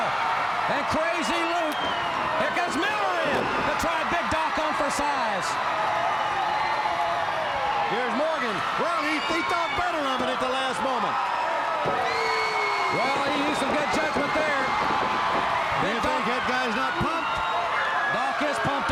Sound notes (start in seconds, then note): 4.8 crowd cheering; 10.9 crowd cheering